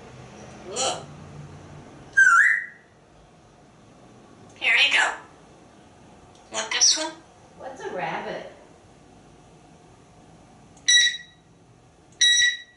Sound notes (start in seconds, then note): 2.1 whistling